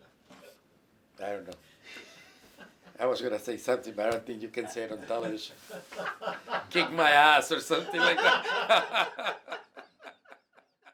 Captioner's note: laughing